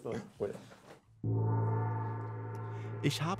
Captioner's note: gong